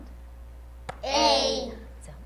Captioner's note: tap